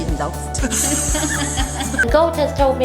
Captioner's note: laughs